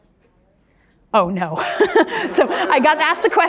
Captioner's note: laughs